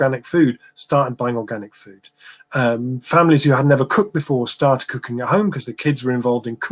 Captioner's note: erm